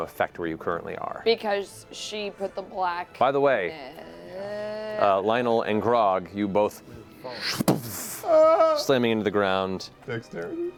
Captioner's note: falling sounds